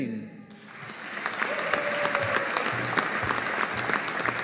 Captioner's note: audience applauding